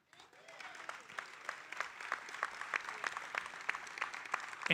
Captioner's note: audience applauding